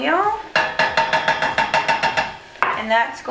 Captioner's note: metal clinking